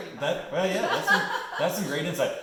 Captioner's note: laughs